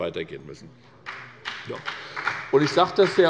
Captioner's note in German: Beifall bei der SPD